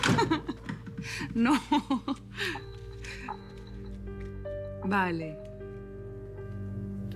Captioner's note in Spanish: Risas